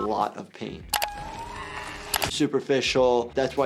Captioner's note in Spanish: persona gritando